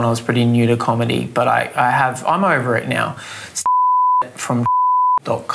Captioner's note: beeps